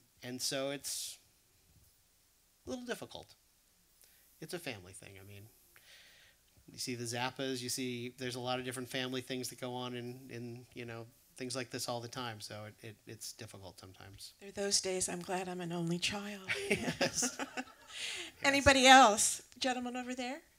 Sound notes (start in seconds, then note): 16.4 laughter